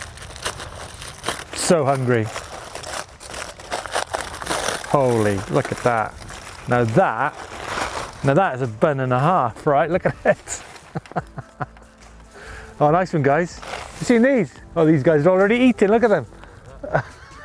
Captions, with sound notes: So hungry. Holy, look at that. Now that is a bun and a half, right? Look at it (laughs) Oh, nice one, guys. You seen these? Oh, these guys are already eatin', look at them!